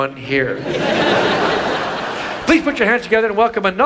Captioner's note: audience laughs